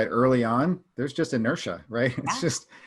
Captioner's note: chuckles